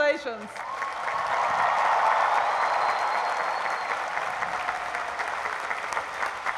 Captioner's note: cheering and applause